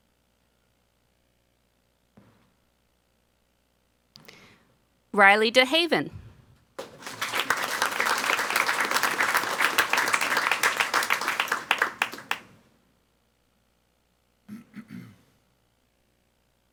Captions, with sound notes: Riley Dehaven. (people clapping)